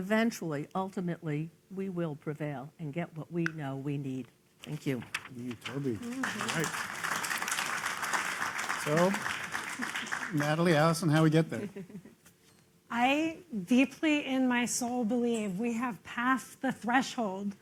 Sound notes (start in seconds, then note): 5.6 applause